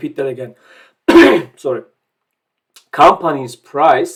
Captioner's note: coughs